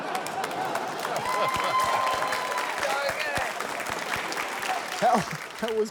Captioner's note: laughter, cheering, applause; chuckles